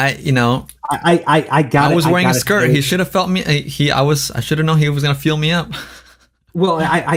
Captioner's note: laughs